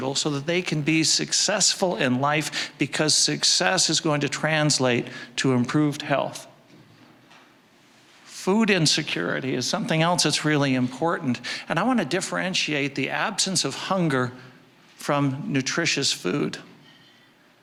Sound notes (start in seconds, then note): none